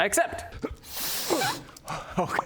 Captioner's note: pop!